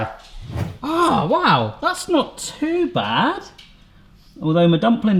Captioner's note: whooshing